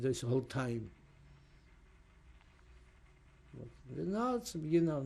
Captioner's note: pauses for 3 seconds